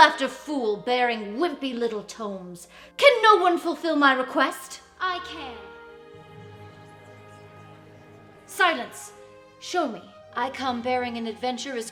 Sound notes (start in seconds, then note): 6.0 crowd chattering